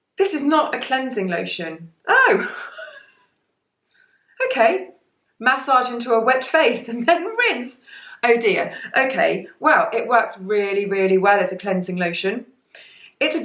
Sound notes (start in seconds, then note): 2.2 laughs